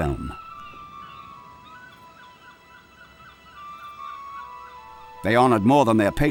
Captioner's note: birds shrieking; gentle music